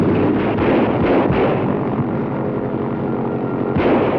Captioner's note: gunshot reporting; gunshot reporting